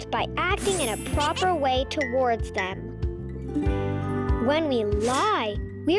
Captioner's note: planet laughing and clinking